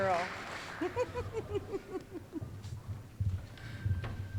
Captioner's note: giggling